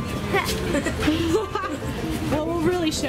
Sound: laughing

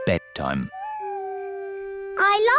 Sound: owl hoots

